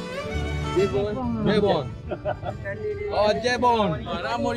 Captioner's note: laugh